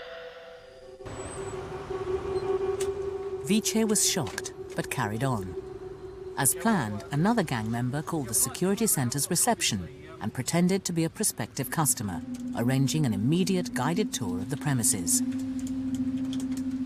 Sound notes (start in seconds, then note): 3.4 voiceover